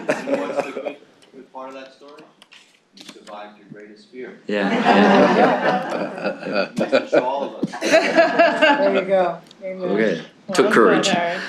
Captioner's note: laughter